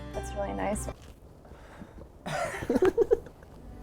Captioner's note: laughter